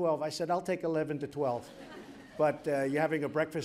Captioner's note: laughter